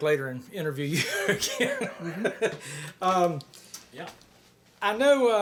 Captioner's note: chuckles